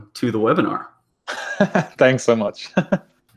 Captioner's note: laughs